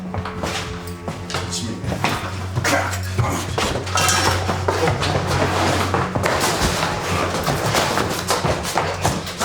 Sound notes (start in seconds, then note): 2.8 Koch grunting